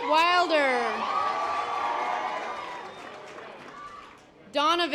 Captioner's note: audience applause